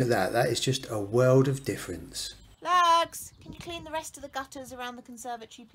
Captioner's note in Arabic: الزوجة تنادي